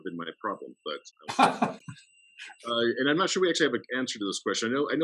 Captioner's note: laughs